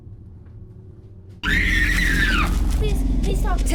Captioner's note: victim screams